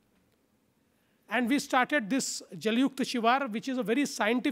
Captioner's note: foreign language